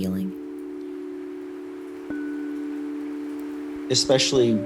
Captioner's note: rain pattering